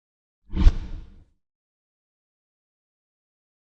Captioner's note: swishing